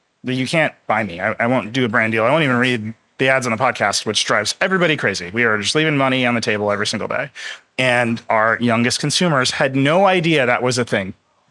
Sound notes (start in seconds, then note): none